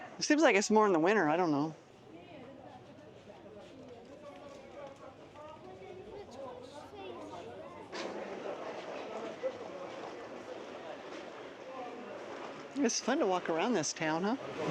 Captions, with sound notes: It seems like it's more in the winter. I don't know. [people chattering] It's fun to walk around this town, huh?